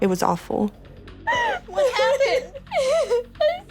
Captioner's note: crying